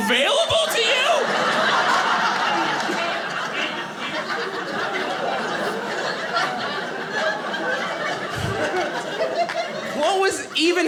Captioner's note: audience laughing